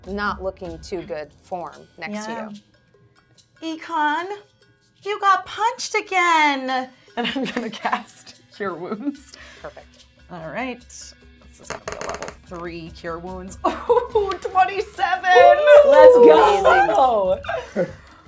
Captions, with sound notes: not looking too good form next to you. - Ekon, you got punched again and I'm gonna cast your wounds. - Perfect. - All right, let's see level three, cure wounds. (screams) 27-- - Let's go.